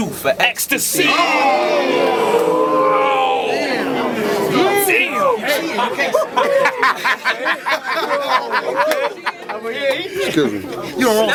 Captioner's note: crowd Reaction